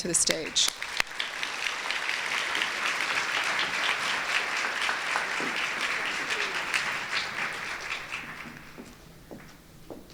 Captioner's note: applause